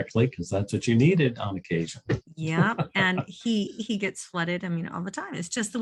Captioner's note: chuckles